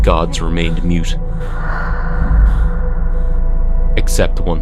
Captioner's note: whooshing sound moving from left to right